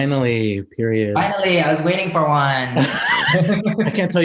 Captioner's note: laughs